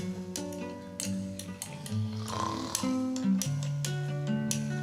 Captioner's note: snoring